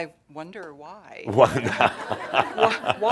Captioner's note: laughter